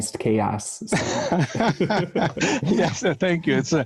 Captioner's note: laughs